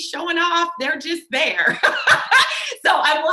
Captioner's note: laughs